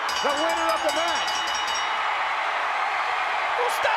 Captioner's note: bell rings